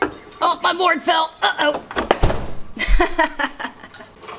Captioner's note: laughing